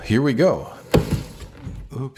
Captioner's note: thud